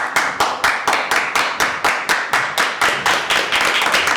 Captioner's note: applause